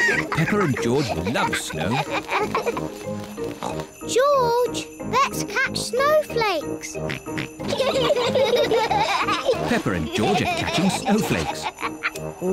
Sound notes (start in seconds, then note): 3.3 snorts; 7.4 both giggle